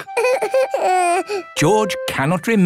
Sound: whimpers

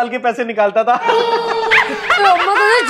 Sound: laughing

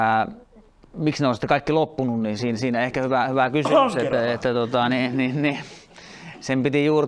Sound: coughing

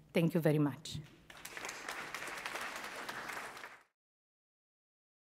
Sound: audience claps

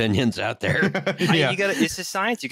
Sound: laughter

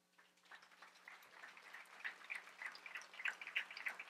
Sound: audience applauds

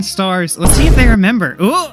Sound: boom

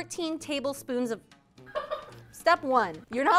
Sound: laughs

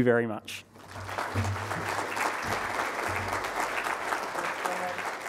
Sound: crowd applauding

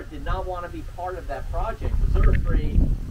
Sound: wind blowing

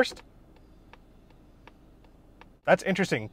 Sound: indicator ticking

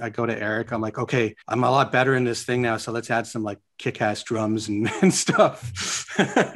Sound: laughs

